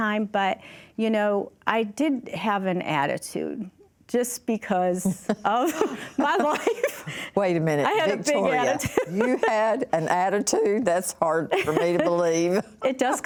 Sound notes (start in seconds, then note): 5.1 laughter